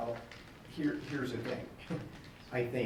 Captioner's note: laughs